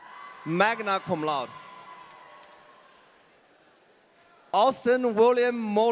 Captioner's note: audience cheering